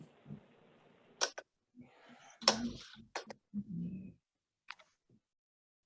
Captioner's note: keyboard Noise